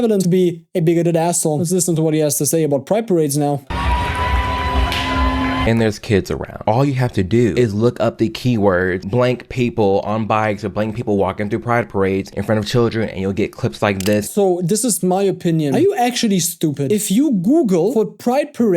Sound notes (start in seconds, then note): 3.6 crowd cheering